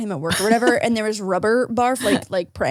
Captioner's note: laughs